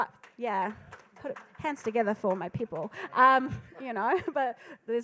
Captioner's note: crowd applauding; laughs